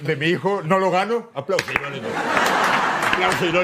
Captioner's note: laughs